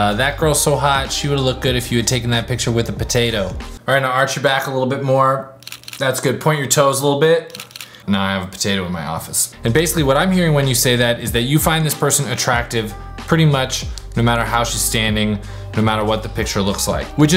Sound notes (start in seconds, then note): 5.6 camera clicks; 7.5 camera clicks